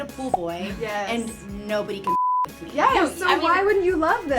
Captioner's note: beep